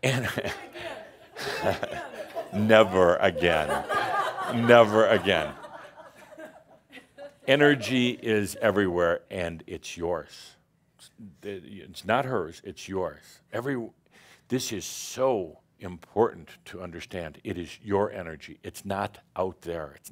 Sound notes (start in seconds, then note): 2.2 some laughter; 4.2 more laughter